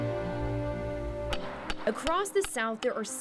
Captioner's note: hammer strikes